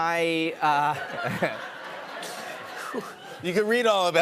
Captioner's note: laughter